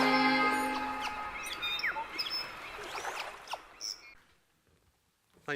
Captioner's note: birds chirping and calling